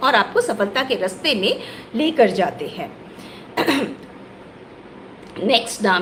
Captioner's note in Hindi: गला साफ़ करने की आवाज़